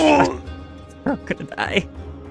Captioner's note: grunting